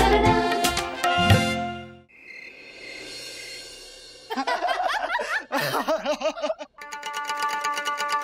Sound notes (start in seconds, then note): 4.3 laughing